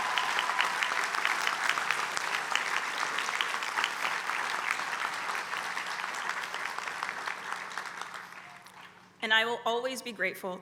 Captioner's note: applause